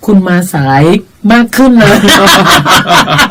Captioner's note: both laughing